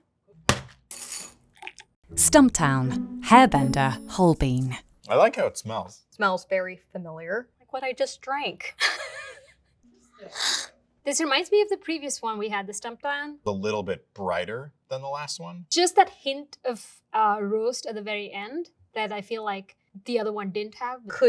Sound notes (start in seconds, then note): 0.5 bag thudding and coffee pouring; 10.4 laughs